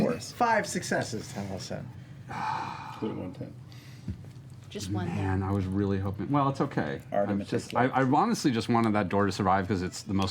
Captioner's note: sighs